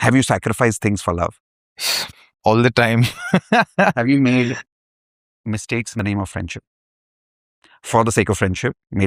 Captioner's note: laughter